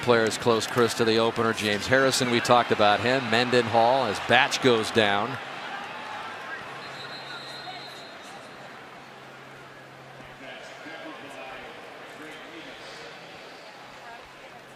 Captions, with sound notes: A lot of key players close, Cris, to the opener. James Harrison, we talked about him. Mendenhall as Batch goes down. [whistle] [pa announcement]